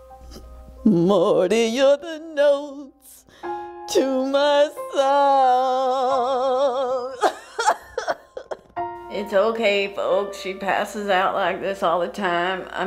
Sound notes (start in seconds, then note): 7.2 coughs-passes out